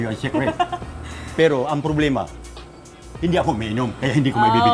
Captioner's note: laughs